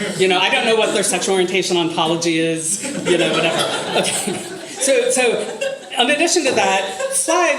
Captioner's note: more laughter